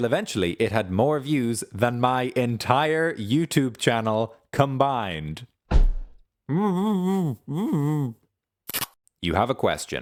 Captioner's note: muffled complaining